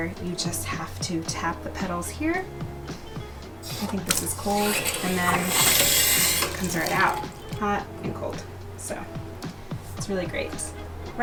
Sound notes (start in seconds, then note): 5.8 water flowing